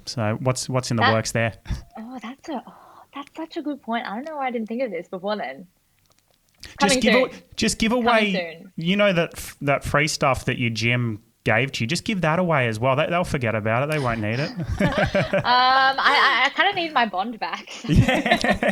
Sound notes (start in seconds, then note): 13.9 laughing; 17.6 everyone laughing